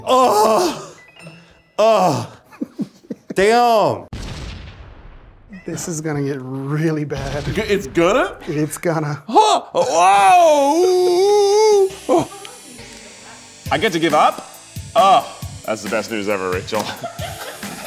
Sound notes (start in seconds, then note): 0.0 groaning; 9.7 groaning loudly